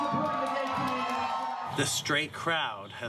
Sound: applause

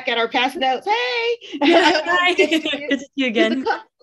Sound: laughing

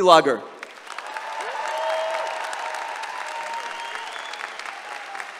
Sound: applause and cheering

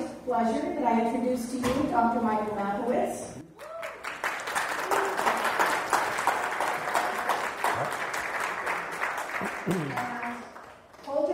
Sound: clapping

